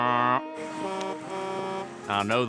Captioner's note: truck's horn honking